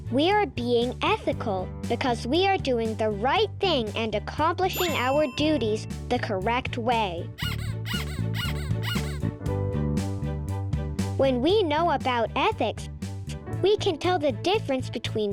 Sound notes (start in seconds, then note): 4.7 bell ringing; 7.4 pig squeaking